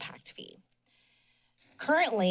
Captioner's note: pause